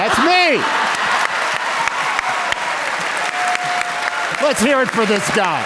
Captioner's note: laughter; applause